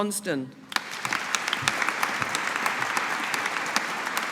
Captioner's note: audience applauding